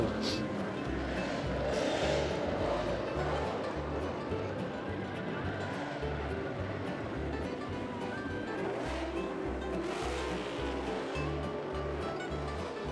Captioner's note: laughing; holiday music; motors revving; holiday music